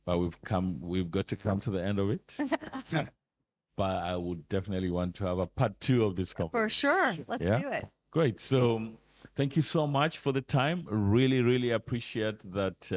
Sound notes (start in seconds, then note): 2.2 laughing